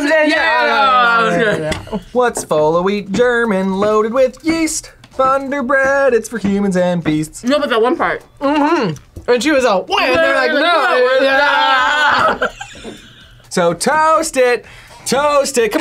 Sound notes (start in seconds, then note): 10.5 laughs